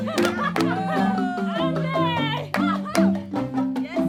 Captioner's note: laughter